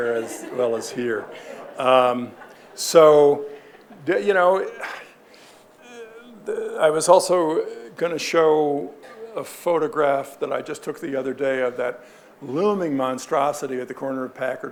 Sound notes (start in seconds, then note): 1.6 audience laughing